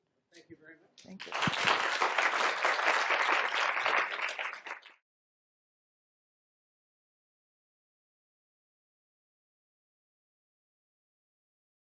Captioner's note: applause